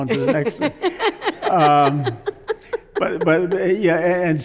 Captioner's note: laughs